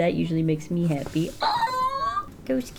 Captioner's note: happy squeal